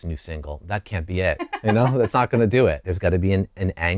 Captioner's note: laughter